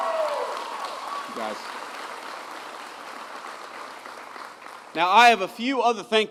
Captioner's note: applause